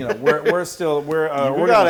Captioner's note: laugh